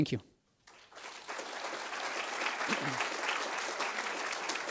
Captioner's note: audience applauds